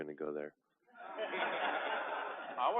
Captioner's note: laughter